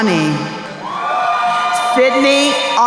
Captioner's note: crowd cheering